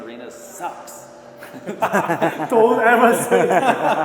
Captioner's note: laughing